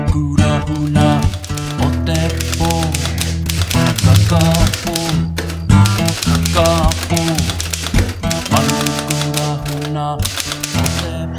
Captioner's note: typewriter sound